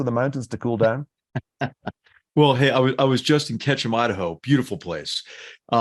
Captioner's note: laugh